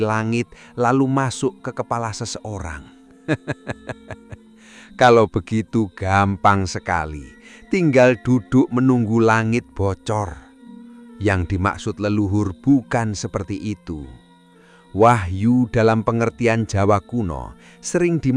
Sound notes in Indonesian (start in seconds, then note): 3.2 tertawa